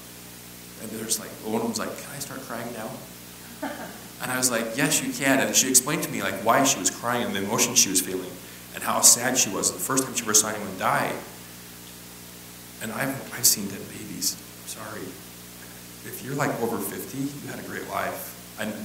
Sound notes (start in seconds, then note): 3.5 laugh